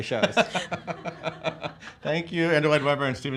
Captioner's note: laughing